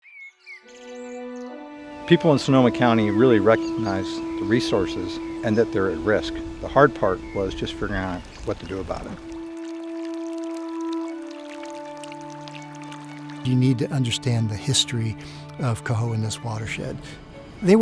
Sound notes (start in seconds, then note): 0.0 birds sing; 0.0 serene music; 10.1 serene music; 10.1 water running